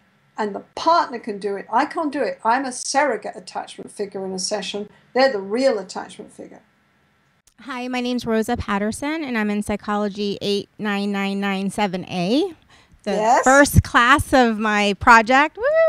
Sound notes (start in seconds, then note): 7.9 voiceover